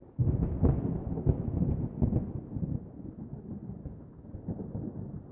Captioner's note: thunder